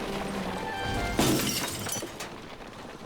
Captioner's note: shattering